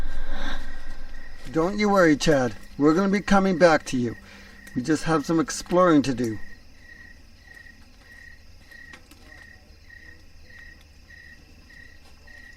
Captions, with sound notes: - Don't you worry, Chad, we're gonna be coming back to you. We just have some exploring to do. (crickets chirping)